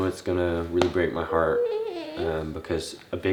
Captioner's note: coos